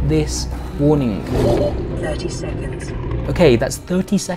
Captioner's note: robot